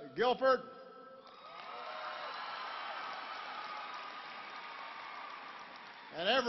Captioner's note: applause